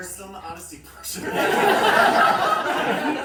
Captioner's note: more laughter